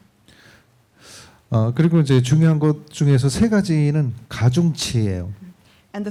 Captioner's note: speaking korean